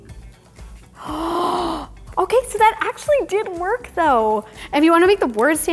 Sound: gasping

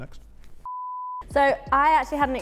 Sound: error beep

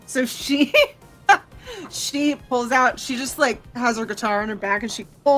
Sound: laughs

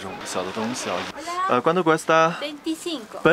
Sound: Spanish

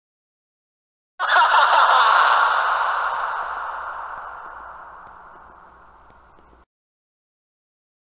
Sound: evil laugh

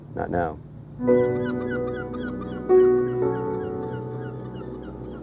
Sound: pelicans screeching

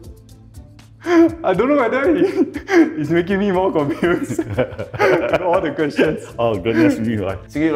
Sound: laughs

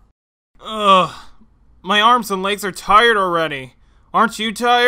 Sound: groans

